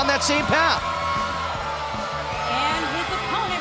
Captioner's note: crowd cheering